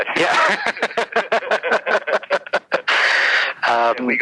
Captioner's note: laughs